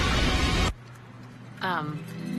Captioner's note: flames erupt